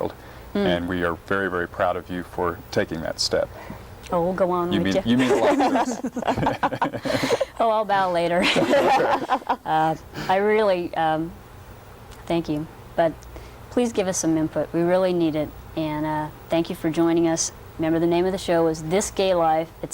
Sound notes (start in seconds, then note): 8.4 laughs